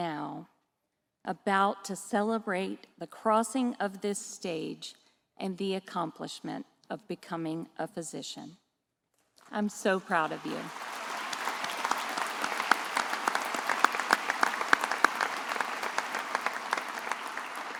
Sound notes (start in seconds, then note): 9.9 attendees applauding